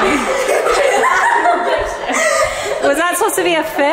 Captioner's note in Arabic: يضحك